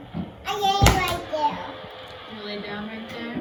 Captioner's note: chitter chatter